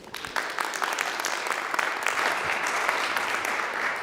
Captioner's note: applause